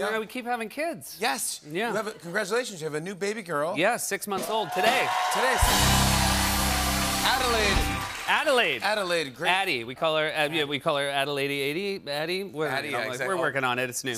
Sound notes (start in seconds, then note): 4.4 cheers and applause